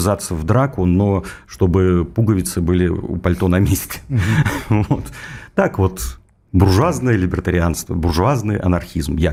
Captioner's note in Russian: смех